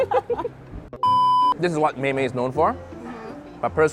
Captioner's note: laughs